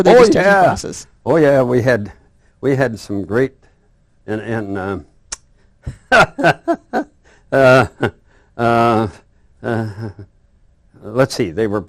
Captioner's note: both laugh